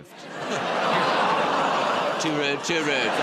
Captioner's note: audience gasps